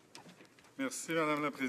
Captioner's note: some applause